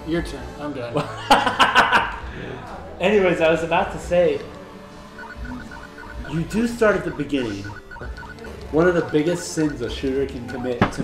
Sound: laughs

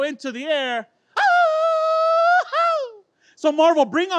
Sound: grito

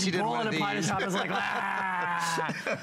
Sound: laughter

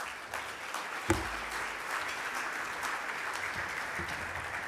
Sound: audience applauding

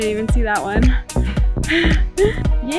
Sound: laughs

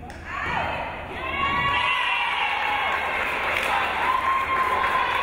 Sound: crowd cheering

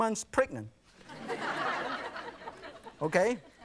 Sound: audience laughing

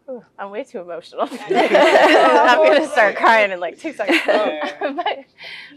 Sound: laugh

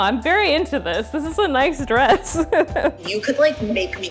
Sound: laughs

